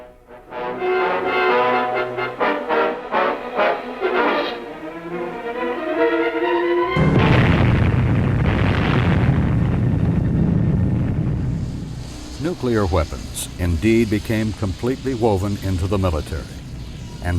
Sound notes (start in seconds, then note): 0.0 dark foreboding music; 6.9 explosion bursting